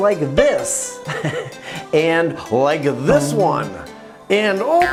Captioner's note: chuckles